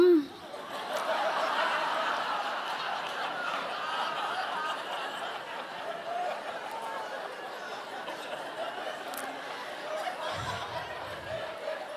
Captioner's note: audience laughter